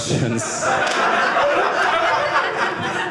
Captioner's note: audience laughing